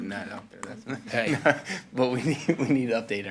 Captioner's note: all laughing